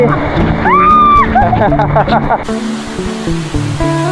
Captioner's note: laugh